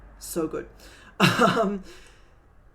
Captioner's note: laughing